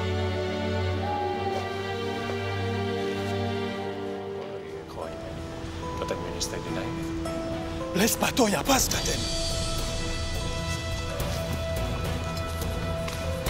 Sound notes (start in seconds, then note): 4.7 chattering in foreign language; 8.1 Athenian speaking in foreign language; 9.6 dramatic orchestral music